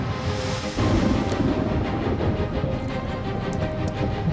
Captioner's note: thunder rumbling